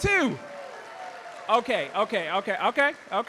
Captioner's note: audience applauding